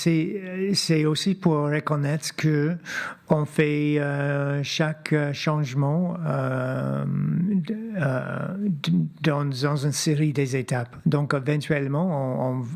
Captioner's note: speaking French